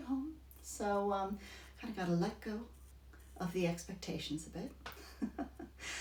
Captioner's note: laughs